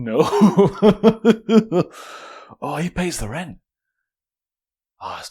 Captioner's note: laughing